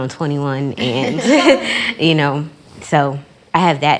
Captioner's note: chuckles